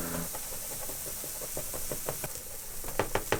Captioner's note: sizzling